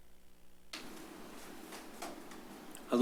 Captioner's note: rustles